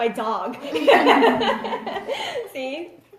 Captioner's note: laughs